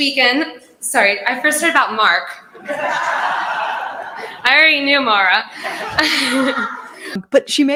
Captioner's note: laughter